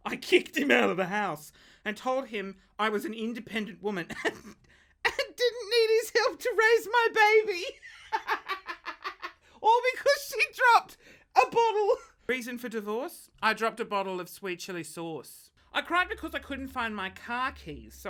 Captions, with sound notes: I kicked him out of the house and told him I was an independent woman and didn't need his help to raise my baby. (laughs) All because she dropped a bottle. Reason for divorce, I dropped a bottle of sweet chili sauce. I cried because I couldn't find my car keys.